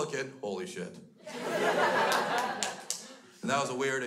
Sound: crowd laughs

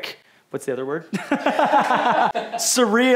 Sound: laughter

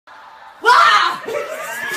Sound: yells; laughing in background

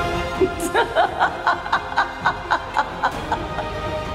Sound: sinister laugh

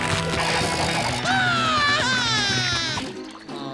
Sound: screaming

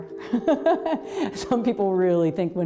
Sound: laughs

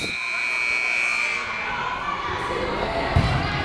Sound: timer buzzes

